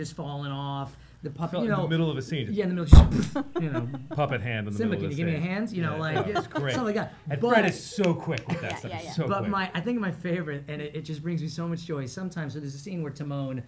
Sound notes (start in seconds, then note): 2.9 thud